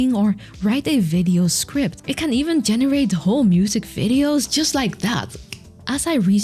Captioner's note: snaps fingers